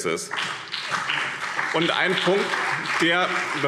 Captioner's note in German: Beifall BÜNDNIS 90/DIE GRÜNEN und CDU